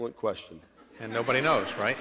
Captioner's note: laughter